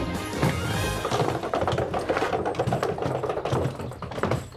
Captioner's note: rolling luggage